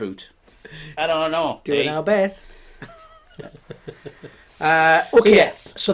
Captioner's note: laughing